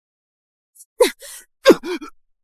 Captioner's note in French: Tousse